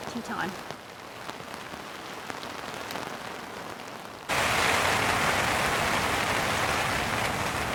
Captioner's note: sound of heavy rain